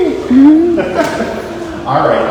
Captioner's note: laughs